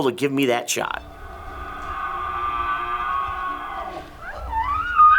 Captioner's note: bull bugling